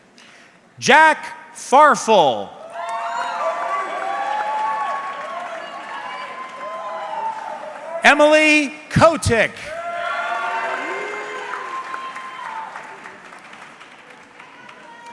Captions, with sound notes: Jack Farfel. (audience cheering) Emily Kotick. (audience cheering)